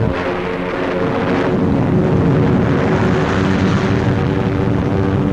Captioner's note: explosions